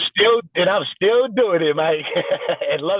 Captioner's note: laughs